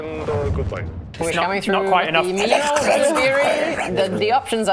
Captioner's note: garbled static